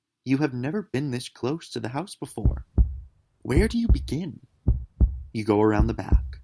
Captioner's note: a steady heartbeat